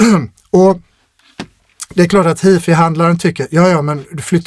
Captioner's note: clears throat